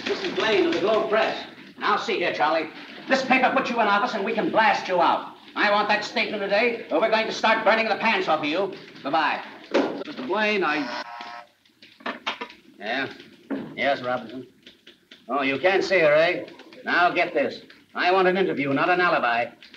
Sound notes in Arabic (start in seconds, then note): 9.0 صوت ارتطام الهاتف; 10.6 رنين جهاز الاتصال الداخلي